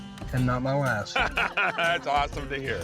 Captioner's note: laughter